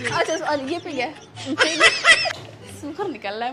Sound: loughing

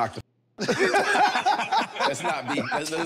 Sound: everyone laughing amusingly

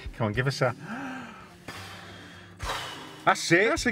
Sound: exhales

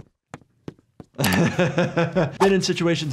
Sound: chuckles

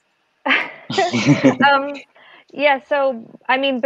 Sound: laughing

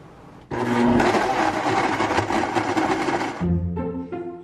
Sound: blender roars; playful music

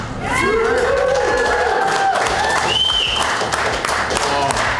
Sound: crowd clapping and cheering

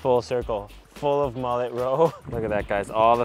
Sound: chuckles

